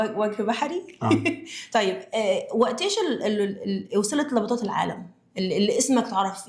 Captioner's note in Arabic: تنحنُح